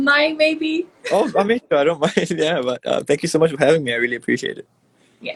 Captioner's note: laughs